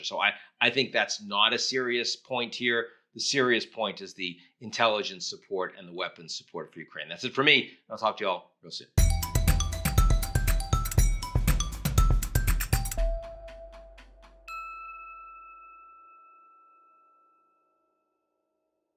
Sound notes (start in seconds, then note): 9.0 bright music; 14.6 bright chiming